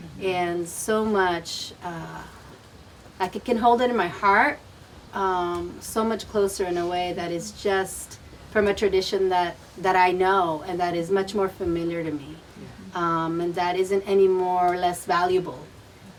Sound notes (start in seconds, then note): 12.5 group murmuring